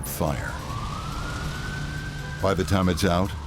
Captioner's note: sirens